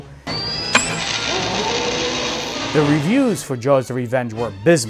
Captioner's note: roar